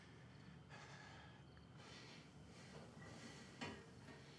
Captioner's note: Isaac panting